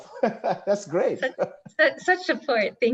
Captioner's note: laughs